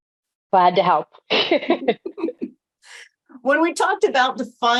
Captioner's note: laughs